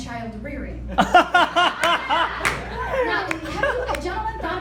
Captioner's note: laughter